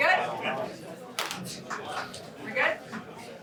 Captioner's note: indistinct chatter